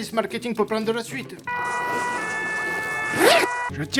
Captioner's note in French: ambulance